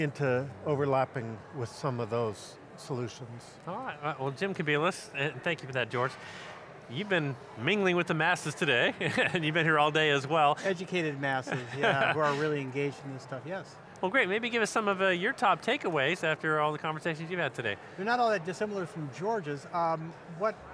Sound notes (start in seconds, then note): 8.9 laughs; 11.5 laughs